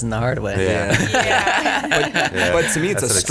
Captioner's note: everyone laughs